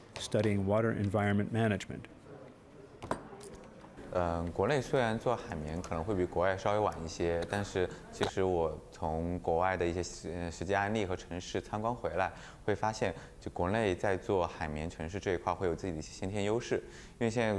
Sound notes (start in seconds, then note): 3.2 speaking Chinese